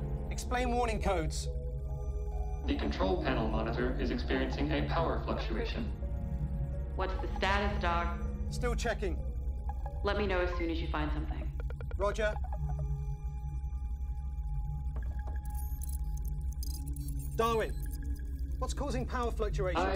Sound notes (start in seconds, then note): 12.7 suspenseful music; 15.4 computer trilling